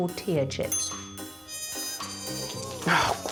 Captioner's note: dinging